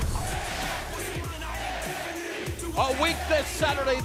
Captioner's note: crowd cheering